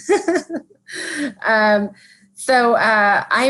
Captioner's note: laughing